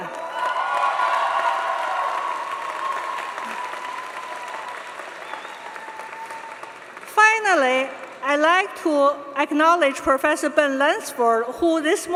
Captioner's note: applause